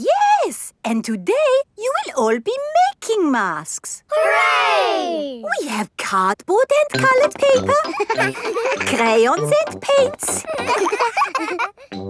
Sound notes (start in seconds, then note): 10.2 all laughing